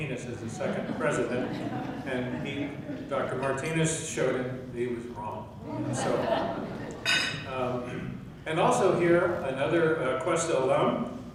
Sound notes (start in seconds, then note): 5.6 laughing